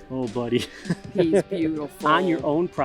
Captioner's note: laughs